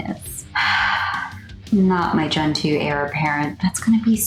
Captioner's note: sigh